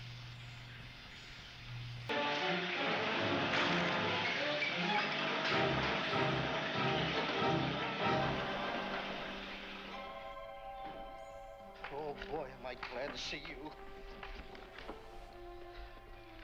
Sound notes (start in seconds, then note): 2.1 chair crashing; 2.1 suspenseful music on TV